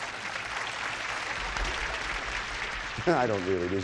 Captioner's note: audience applauding